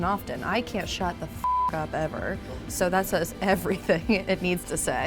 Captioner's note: beep